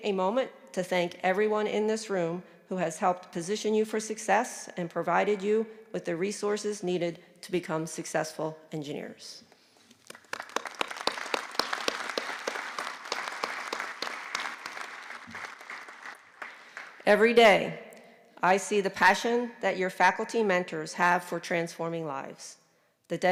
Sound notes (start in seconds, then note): 9.9 applause